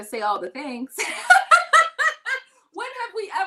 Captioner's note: laughing